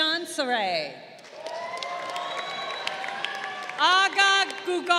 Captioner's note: crowd cheering